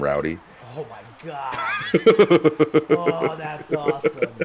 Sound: laugh

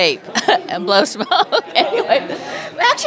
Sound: laughter

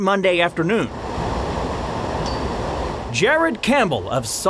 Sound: water flowing

